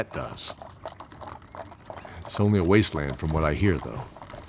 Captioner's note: none